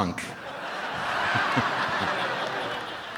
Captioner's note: crowd laughs